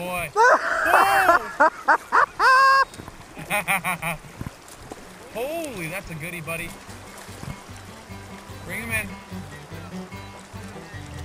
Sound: both Laughing; laughing

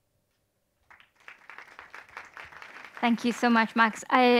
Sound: attendees applauding

